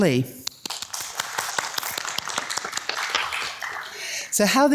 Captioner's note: audience applauds